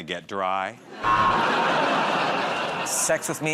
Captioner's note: buzzer